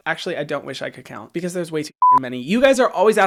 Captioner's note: beep